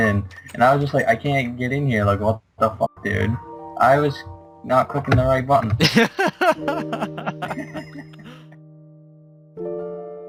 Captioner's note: laughter